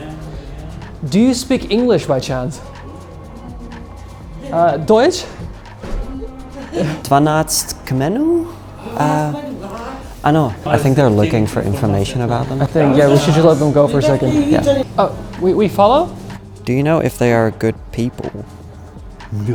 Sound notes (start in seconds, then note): 6.0 laughs; 8.8 shopkeepers speak in foreign language; 19.3 shopkeeper speaks in foreign language